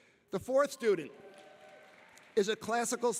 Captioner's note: audience applauding and cheering